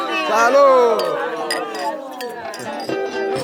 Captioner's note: clink glasses